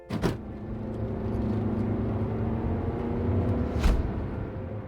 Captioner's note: car doors slam shut; car accelerating